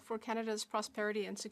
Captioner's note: speaking French